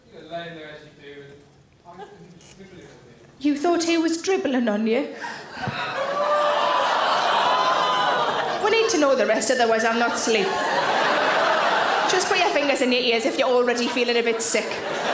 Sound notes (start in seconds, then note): 5.2 audience gasp